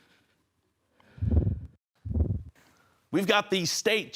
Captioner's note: soft breathing; whoosh